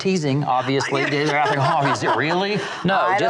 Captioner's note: laughs